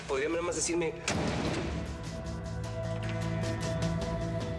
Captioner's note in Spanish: portazo